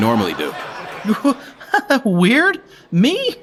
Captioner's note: laughs nervously